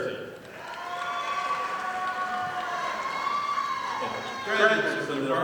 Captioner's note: audience applauding